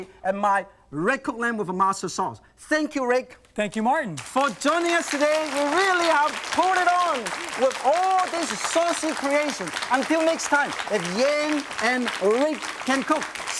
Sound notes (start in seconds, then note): 4.0 crowd applauds